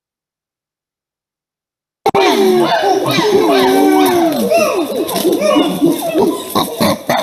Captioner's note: chimp vocalizations; tuke pant barking